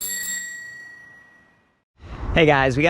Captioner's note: bell rings